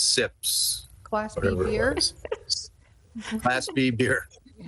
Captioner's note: everybody giggles